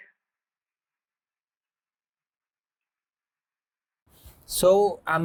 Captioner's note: silence